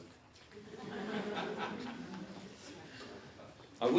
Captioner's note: audience Laughter